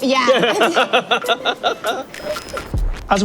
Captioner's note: laughs